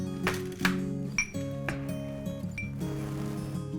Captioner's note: dishes clinking